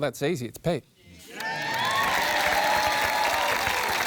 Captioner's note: cheering, applause